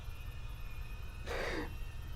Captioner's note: sobs; gasps